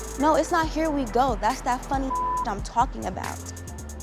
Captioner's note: beep